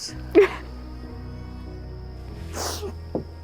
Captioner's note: sobbing